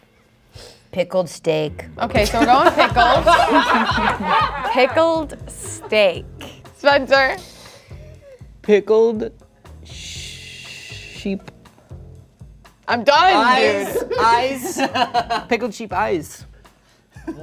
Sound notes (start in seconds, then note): 2.2 group laughing; 2.3 laughing; 13.5 chuckling